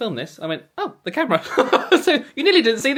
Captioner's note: laughs